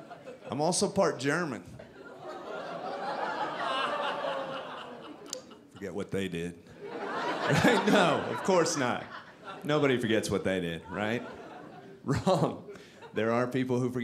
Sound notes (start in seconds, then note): 1.8 audience laughing